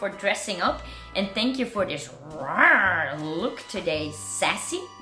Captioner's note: roaring loudly